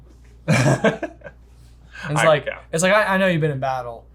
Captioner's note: laughs